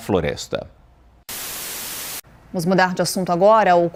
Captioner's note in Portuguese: Estática